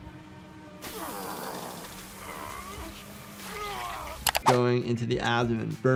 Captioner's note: character grunting